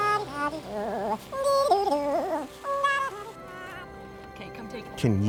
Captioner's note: speaking gibberish